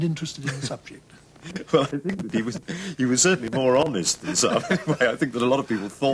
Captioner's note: laughs